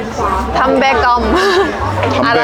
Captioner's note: laughing